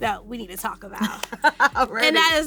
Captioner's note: laughs